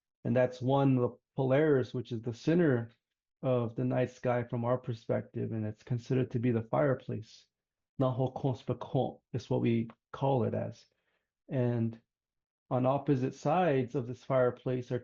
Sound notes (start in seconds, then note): 7.9 speaking in traditional Dine language